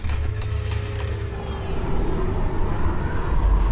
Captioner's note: wind howling